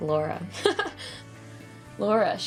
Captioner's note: Genette giggles